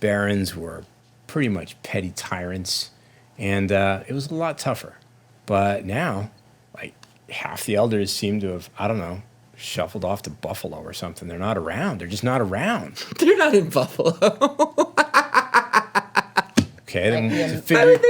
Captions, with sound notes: "barons were pretty much petty tyrants, "and it was a lot tougher. "But now, half the elders seem to have, I don't know, "shuffled off to Buffalo or something. "They're not around, they're just not around." They're not in Buffalo! (laughs) "Okay."